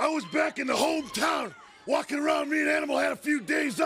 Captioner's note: crowd cheering